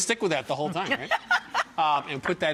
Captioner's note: laughs